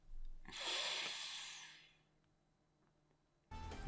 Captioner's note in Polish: westchnienie